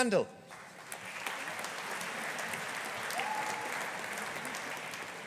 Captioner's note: audience applauding